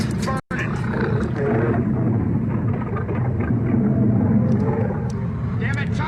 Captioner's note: snarling